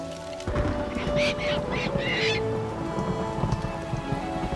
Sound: bird squawking

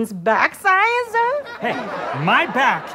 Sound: audience laughter

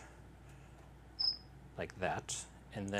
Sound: chirp

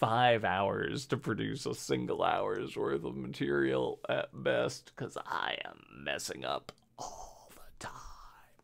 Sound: whispers

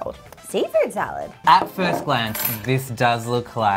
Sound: cutlery clanging

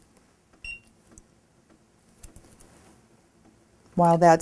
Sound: beep

